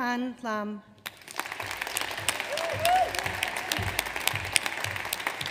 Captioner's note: audience applauds